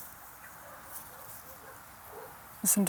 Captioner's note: distant barking